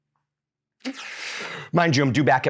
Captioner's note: inhales deeply